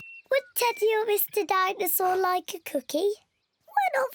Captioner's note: in squeaky voice